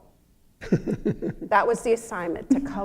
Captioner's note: laughter